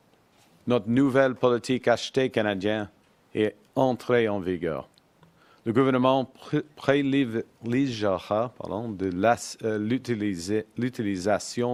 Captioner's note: speaks French